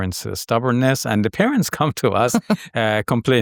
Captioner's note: chuckling